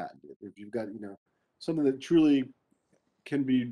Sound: speaking faintly

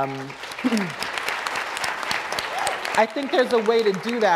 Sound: applause

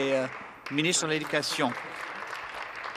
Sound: applause

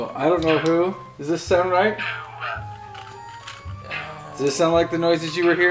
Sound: monsters chanting

